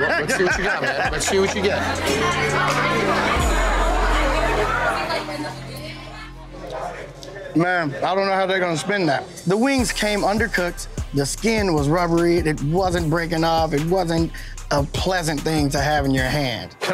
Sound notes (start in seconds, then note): 2.0 bar bustling